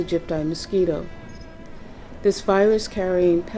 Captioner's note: mosquito buzzing